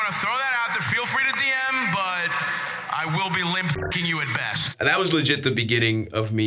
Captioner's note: beeps